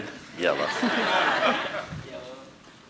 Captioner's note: audience laughing